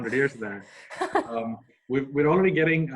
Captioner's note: laughs